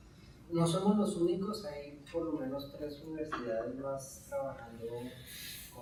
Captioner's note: speaking in Spanish